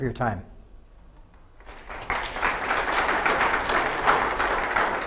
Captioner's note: audience clapping